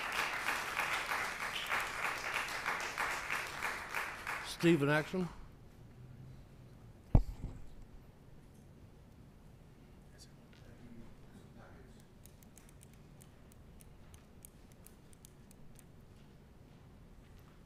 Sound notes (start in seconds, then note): 0.0 scattered applause; 2.1 applause